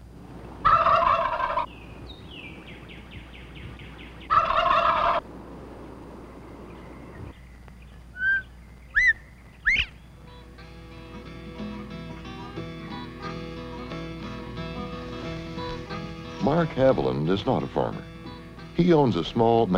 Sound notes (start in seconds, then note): 0.0 turkey gobbling; 6.6 quail singing